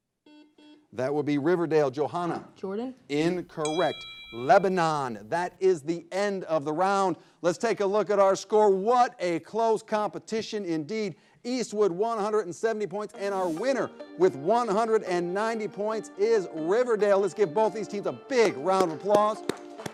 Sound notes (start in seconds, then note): 0.2 buzzer blares; 3.6 bell chimes; 18.7 all applause